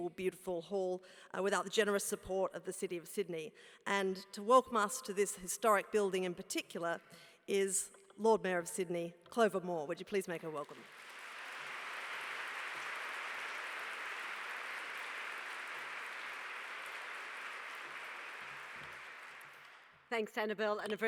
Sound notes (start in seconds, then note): 10.8 applause